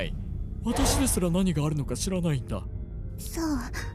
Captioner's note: spooky voice